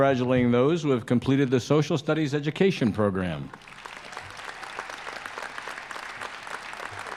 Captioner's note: applause